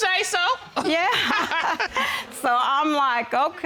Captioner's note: all laughing